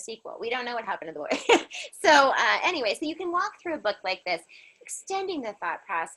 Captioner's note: laughter